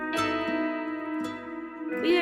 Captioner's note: airplane passing